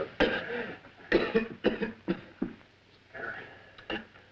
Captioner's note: Paul coughing